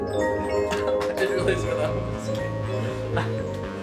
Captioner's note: laughs